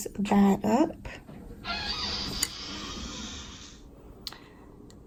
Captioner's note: screen door makes creak worthy of a horror movie